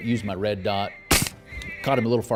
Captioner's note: gunshot